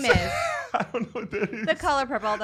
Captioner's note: laughs